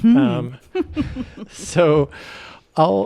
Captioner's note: chuckles